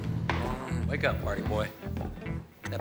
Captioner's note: groans